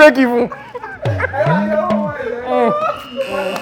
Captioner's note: laughs